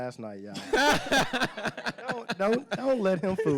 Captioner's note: laughing